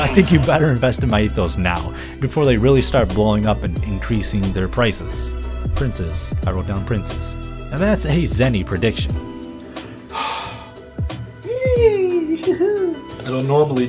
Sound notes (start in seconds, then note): 10.1 brain Freeze noises